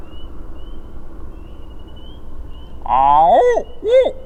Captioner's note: birds chirping; imitation squawking